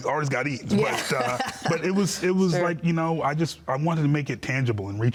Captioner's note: laughing